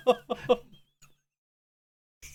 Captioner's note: laughing